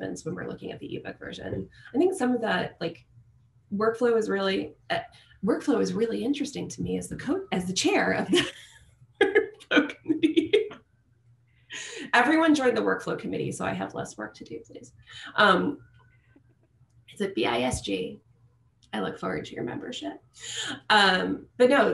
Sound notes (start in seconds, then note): 9.2 laughter